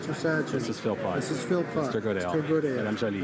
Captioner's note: speaking in french